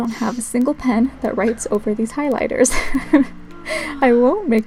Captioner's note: laugh